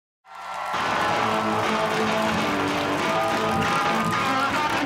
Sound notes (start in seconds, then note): 0.2 audience cheering